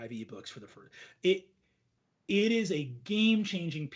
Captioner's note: speaks faintly